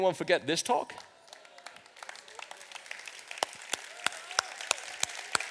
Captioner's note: audience applauds